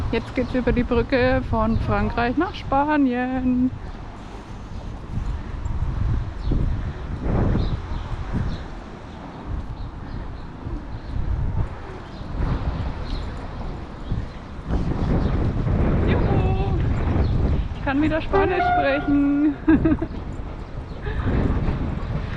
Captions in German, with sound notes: Jetzt geht's über die Brücke von Frankreich nach Spanien. Juhu, ich kann wieder Spanisch sprechen. [gelächter]